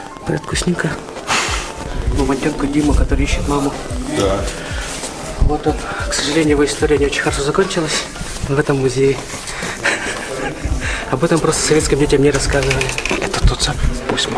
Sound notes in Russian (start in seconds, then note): 9.8 смех